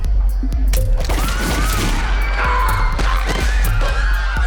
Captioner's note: women screaming